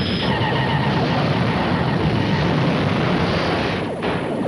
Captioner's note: beam firing